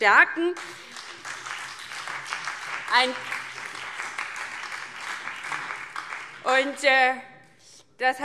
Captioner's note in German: Beifall DIE LINKE, BÜNDNIS 90/DIE GRÜNEN und SPD